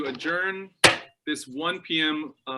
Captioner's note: thudding